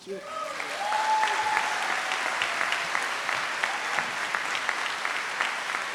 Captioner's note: audience cheers and applauds